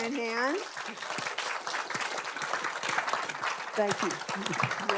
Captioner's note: audience applauding